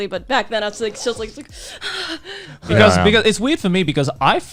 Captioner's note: gasping